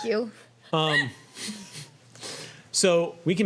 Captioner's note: laughing